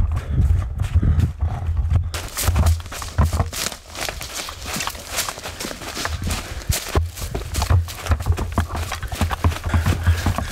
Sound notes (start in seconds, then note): 2.2 footsteps crunching